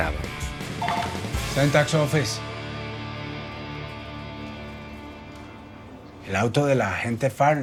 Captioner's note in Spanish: Suena un teléfono